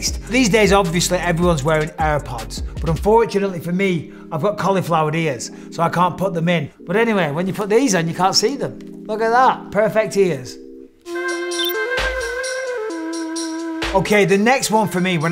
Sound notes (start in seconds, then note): 11.4 mellow music; 11.5 graphic blips